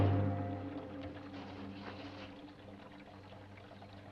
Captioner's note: liquid trickling